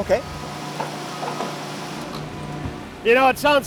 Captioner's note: machinery whirring